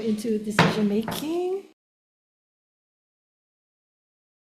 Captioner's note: gavel banging